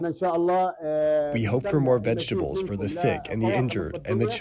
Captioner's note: through translator